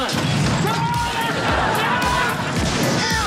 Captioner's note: screaming